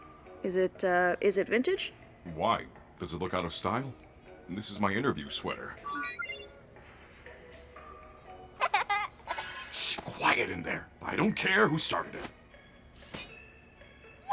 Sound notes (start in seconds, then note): 5.8 digital chimes; 8.5 children laughing